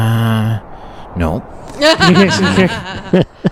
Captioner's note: laughter